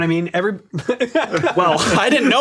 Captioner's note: laughs lightly